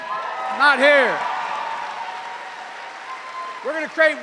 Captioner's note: cheers and applause